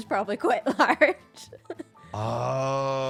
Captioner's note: laughs